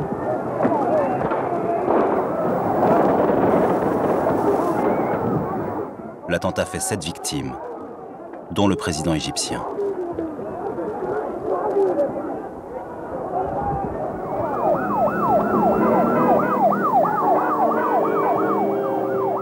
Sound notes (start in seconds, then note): 10.9 screams; 13.9 siren sounds